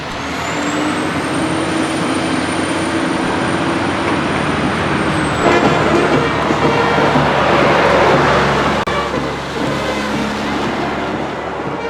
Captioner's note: traffic sounds